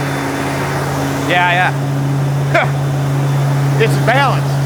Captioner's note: laughs